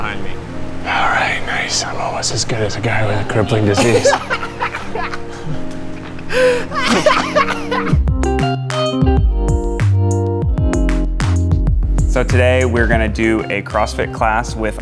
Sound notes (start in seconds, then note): 3.0 laughing; 5.4 mellow rock music